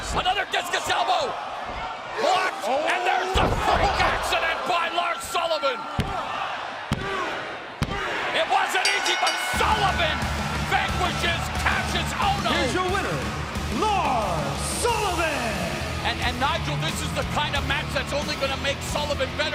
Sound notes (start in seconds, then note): 6.2 crowd cheering; 8.8 bell ringing